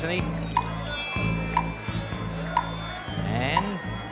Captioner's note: clock ticking